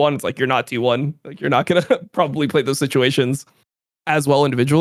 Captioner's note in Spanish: risas